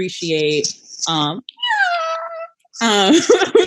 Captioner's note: happy shrieking; laughing